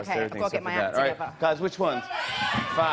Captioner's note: audience shouting